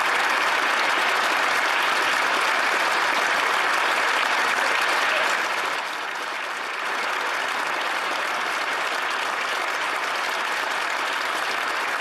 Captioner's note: applause